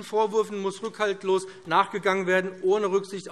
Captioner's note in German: none